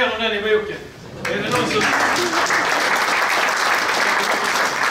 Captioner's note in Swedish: Applåder